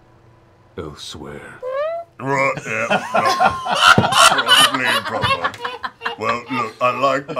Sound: farts

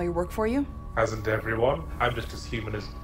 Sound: voiceover

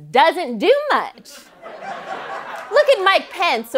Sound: laughter

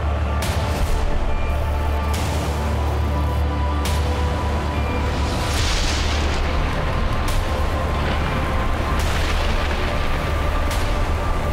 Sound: eerie music; thunder clapping

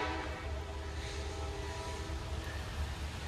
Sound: train horn blaring echoing; train bell ringing

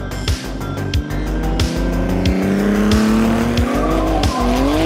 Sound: engines roaring

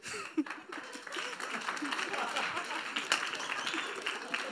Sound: audience applauds

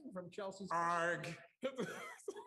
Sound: laughter

